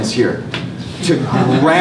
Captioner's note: laughter